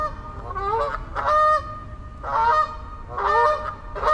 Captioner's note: geese honking loudly